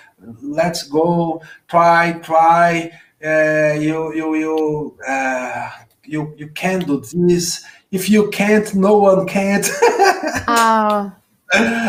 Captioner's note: laughs